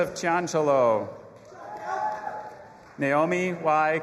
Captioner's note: audience applauding and cheering